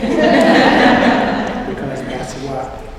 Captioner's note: laughter